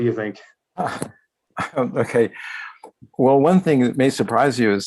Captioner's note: laughs